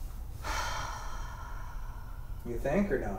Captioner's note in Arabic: تتنهد